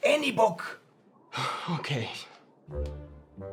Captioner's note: sighs